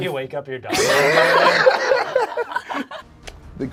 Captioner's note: group laughs